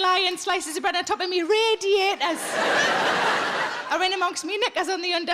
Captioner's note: audience laughing